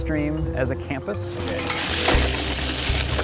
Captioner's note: rustling garbage